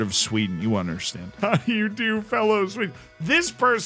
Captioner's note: chuckles